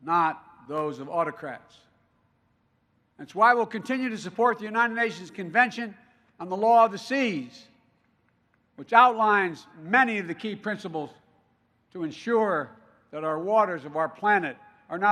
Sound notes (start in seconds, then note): none